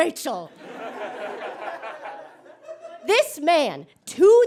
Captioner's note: audience chuckles